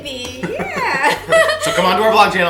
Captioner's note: laughing